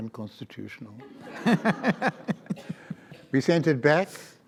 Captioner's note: audience laughs